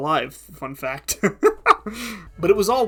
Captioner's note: laughing